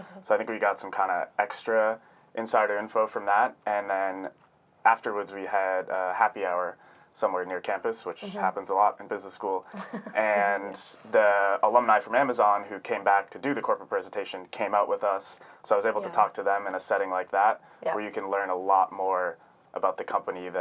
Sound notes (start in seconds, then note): 9.7 laughing